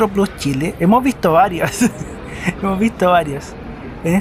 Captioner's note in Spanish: risas